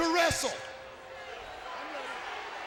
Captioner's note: crowd chattering